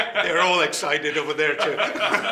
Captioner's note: laughing